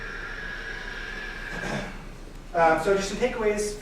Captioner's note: whirring